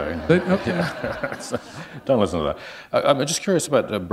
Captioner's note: laughter